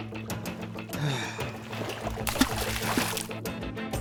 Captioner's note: sigh